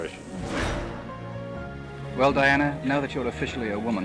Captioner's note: whoosh